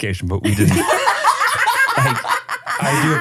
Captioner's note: everybody laughs